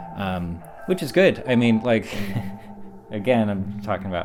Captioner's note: laughs